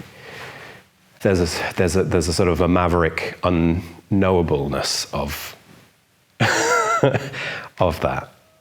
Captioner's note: laughs